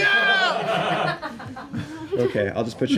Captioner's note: laughter